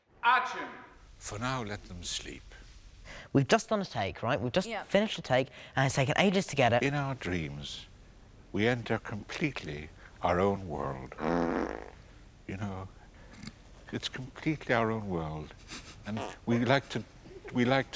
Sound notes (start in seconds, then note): 11.1 breaking wind; 16.1 breaking wind